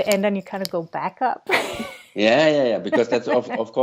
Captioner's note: laughs